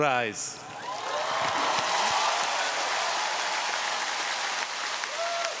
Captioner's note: audience cheering